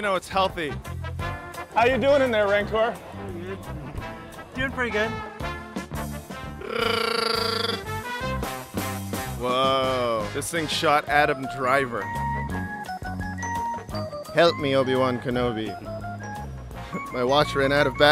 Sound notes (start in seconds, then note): 6.6 Chewbacca roar